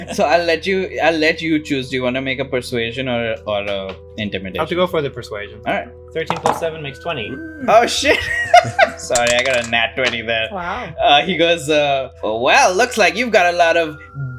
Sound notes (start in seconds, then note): 8.1 laughs